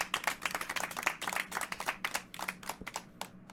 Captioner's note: polite applause